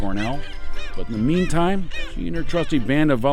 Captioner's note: bird squawking